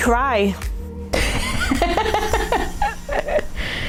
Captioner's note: laughing